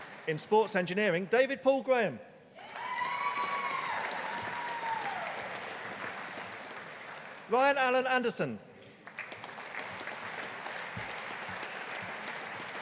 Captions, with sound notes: In Sports Engineering, David Paul Graham. (AUDIENCE APPLAUDING) Ryan Allen Anderson. (AUDIENCE APPLAUDING)